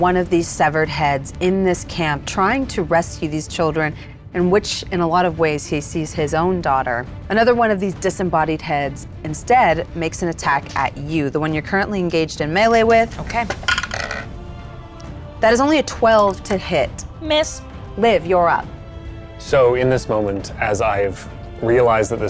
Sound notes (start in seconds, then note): 13.4 die rattles